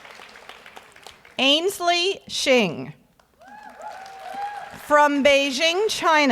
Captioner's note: audience cheers and applauds; audience applauds